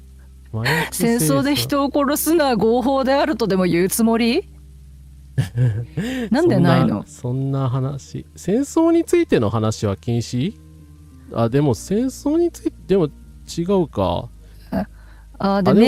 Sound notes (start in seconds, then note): 5.4 laughter